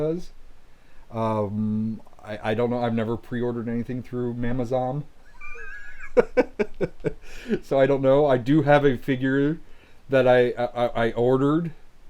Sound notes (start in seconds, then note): 5.2 laughing